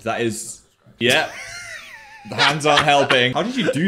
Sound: seductive music; laughs

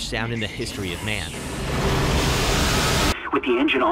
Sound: engine screeches

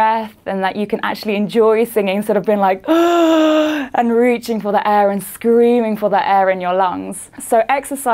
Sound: breathes deeply

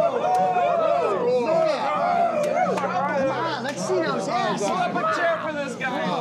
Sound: men whooping

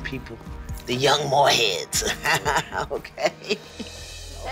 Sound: laughs

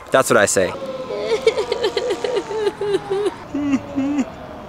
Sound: whimpering

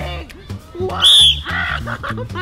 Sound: whistles

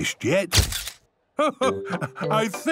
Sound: camera clicks

